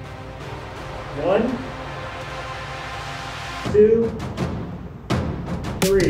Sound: wind whooshing

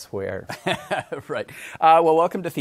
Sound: chuckles

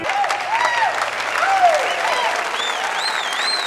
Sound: crowd cheering

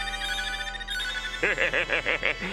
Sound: laughing

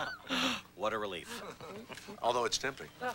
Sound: laughs

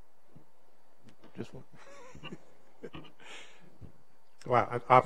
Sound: laughs

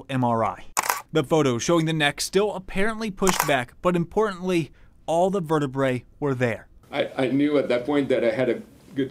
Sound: nats: picture snap

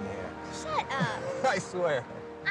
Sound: laughs

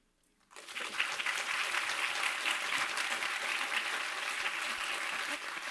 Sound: audience applauding

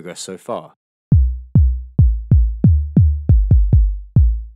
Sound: rhythmic tapping

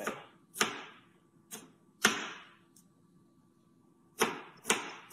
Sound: knife chopping

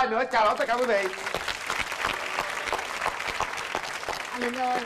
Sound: claps

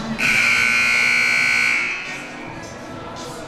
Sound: siren buzzing

